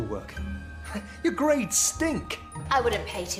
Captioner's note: scoffs